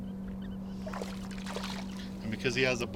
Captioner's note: fish splashing